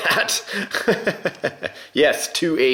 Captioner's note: laughter